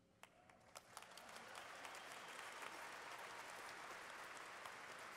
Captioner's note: cheering